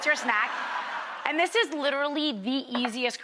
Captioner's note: laughing